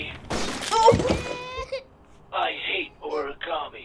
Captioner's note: glass breaking; baby crying